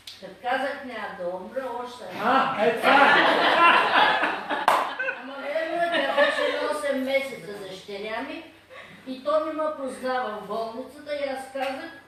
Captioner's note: loud laughing